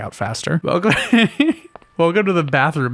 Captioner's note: chuckle